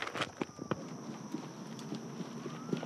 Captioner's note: siren wailing